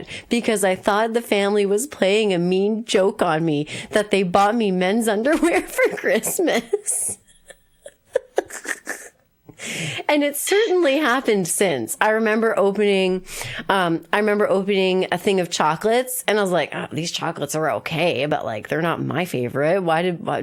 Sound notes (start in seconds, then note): 8.1 laughs